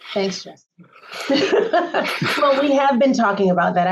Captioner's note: laughter